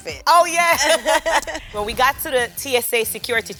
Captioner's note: both laugh